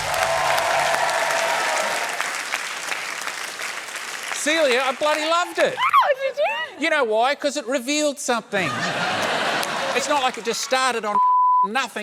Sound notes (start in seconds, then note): 0.0 cheering, applause; 8.6 laughter